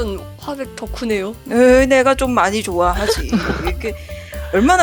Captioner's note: laugh